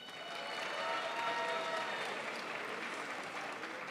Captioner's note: crowd applauds